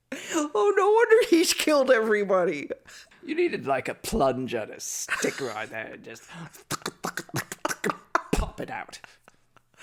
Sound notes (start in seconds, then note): 6.7 makes plunger sounds